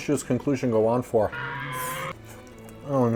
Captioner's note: dino screech